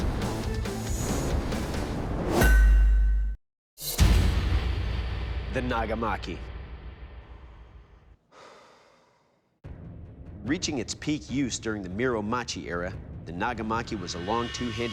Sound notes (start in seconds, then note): 8.3 sighs; 9.6 suspenseful music